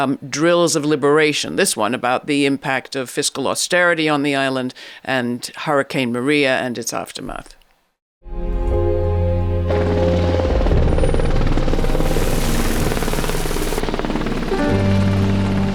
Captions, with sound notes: "Drills of Liberation", this one about the impact of fiscal austerity on the island and Hurricane Maria and its aftermath. (gentle music) (helicopter buzzing)